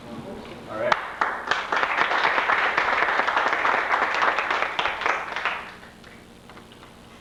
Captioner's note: applause